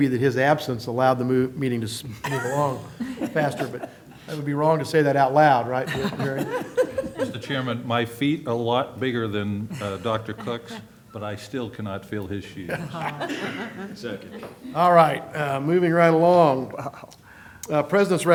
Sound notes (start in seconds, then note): 5.8 laughter